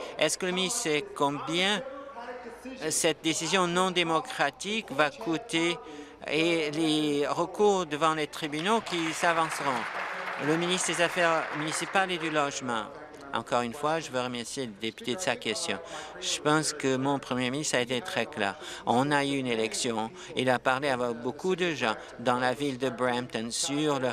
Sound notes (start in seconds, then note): 11.6 applause